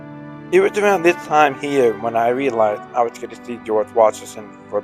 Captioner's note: voiceover